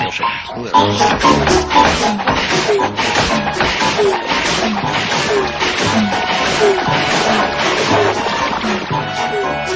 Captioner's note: machines grinding and bubbling